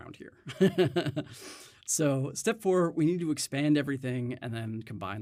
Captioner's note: chuckles